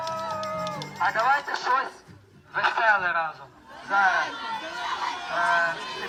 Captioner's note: vocalist speaking in foreign language